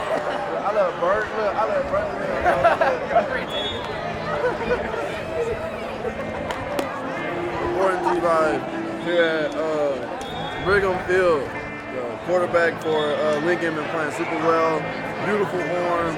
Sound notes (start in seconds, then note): 0.6 crowd chatters